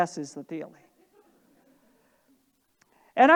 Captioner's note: audience laughing